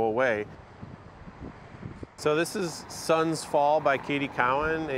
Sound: traffic humming

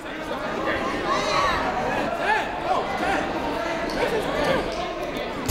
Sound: people shouting in the crowd

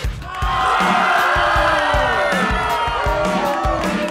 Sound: kids cheering

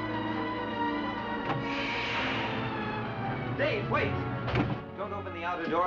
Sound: whooshing

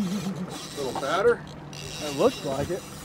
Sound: reel cranking

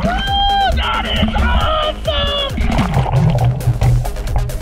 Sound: yells

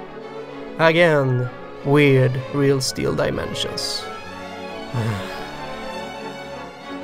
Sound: sigh

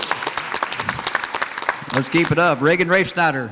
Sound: audience applauds

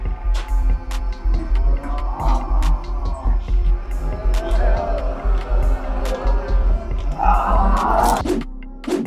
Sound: zombies moaning while intense music plays

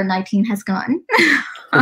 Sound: chuckle

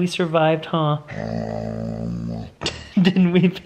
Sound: dog groans

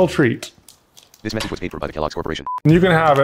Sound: text-To-Speech Voice

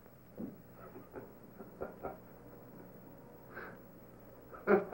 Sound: chuckling

